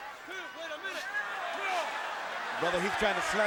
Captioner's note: crowd chatter